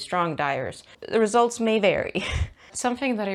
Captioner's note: laughs